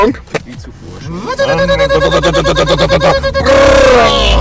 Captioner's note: engine revving